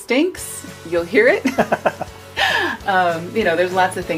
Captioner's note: laughter